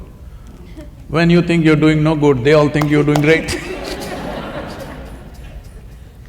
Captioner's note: laughter